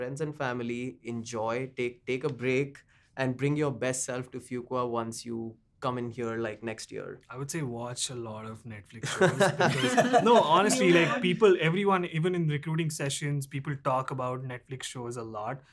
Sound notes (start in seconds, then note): 9.1 laughs